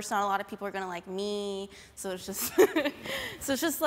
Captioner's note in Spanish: ríe